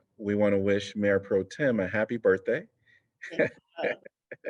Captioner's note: laughter